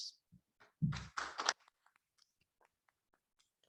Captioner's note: applauding